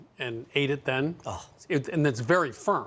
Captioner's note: gasps